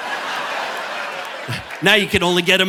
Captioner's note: audience laughing